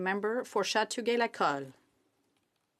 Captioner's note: speaking in French